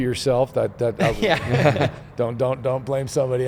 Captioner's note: everyone laughs